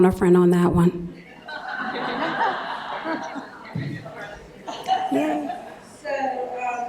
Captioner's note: laughter